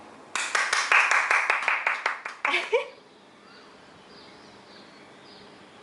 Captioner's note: applause